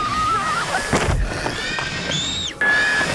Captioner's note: screams; thud; screams